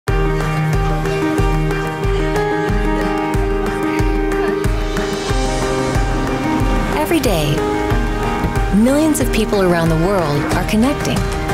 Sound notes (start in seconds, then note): 0.3 inspirational music; 2.4 laughing